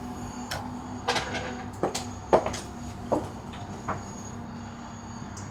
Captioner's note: footsteps tapping